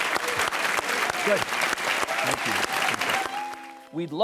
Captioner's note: audience applauds